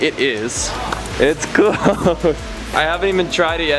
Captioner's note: chuckles